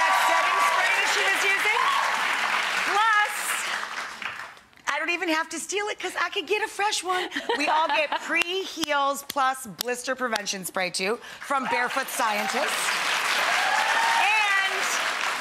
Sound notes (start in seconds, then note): 7.1 laughs; 13.4 applause